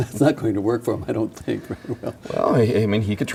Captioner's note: laughing